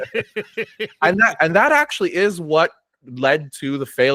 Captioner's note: laughing